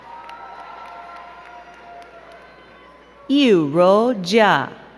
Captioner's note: crowd cheering and clapping